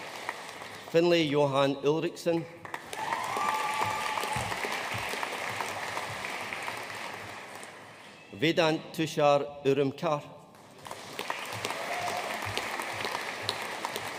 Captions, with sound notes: Finlay Johan Ulrichsen. (AUDIENCE CHEERING AND APPLAUDING) Vedant Tushar Urumkar. (AUDIENCE APPLAUDING)